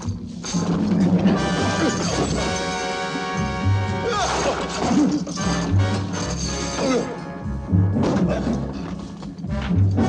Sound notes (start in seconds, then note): 5.3 groaning